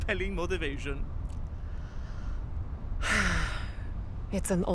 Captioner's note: Krillia gives a beleaguered sigh